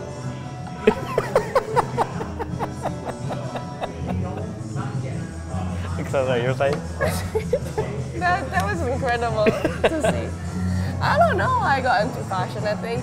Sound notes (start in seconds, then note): 0.8 laughing